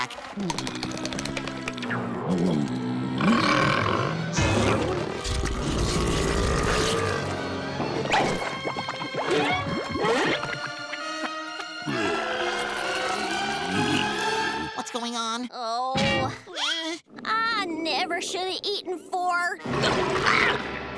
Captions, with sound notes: [groaning] [moaning] What's going on? Ooh. Ehh, I never shoulda eaten four. Uh! Ah!